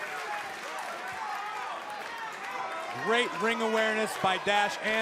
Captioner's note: crowd chatter